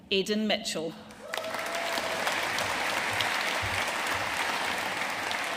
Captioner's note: audience cheering and applauding